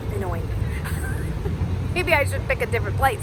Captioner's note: laughs